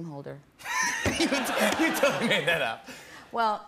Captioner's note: laughs